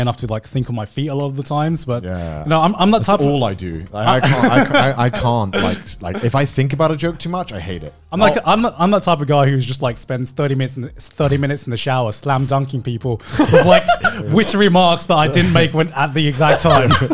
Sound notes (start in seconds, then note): 13.3 laughs